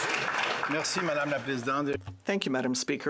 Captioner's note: speaking in French